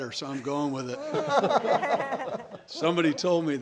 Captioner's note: all laughing